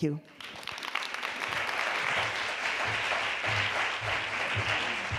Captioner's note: applause